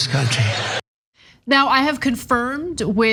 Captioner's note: laugh